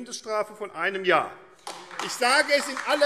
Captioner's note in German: Beifall AfD